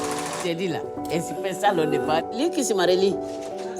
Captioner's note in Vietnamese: tiếng địa phương